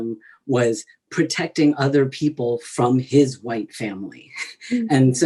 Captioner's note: laughs